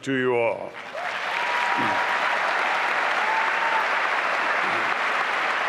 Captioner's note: applause and cheering